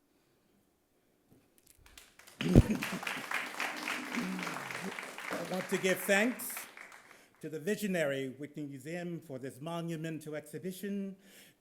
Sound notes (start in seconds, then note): 1.7 audience claps; 2.4 chuckles